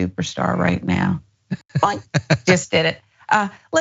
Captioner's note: laugh